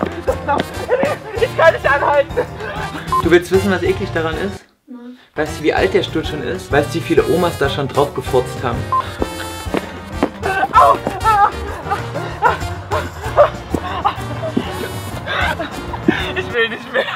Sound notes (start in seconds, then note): 11.6 struggles to breathe and walk at the same time